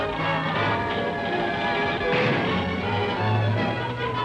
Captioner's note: people clamoring